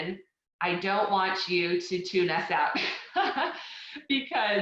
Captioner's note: laughing